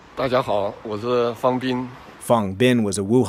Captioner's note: speaking foreign language